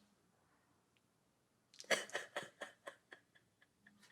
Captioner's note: sobbing